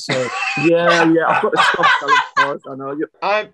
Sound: laughing

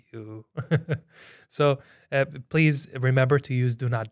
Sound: chuckles

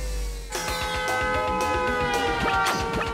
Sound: horn honking

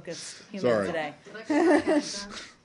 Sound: laughter

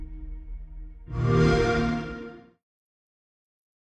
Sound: xbox sound

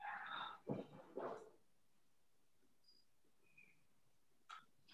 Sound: rustling

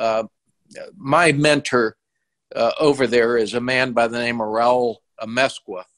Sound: murmurs

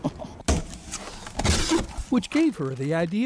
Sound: chuckles

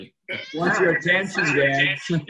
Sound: cat meowing

